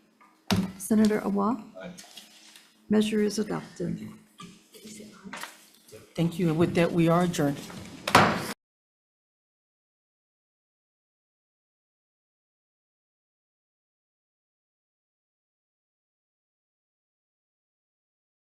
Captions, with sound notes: - Senator Awa? - Aye. - Measure is adopted. - Thank you, and with that, we are adjourned. (gavel banging)